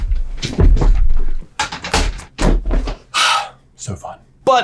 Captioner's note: chair banging against floor